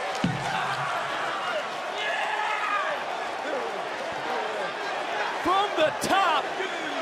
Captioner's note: yelling